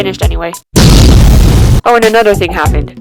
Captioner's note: booooom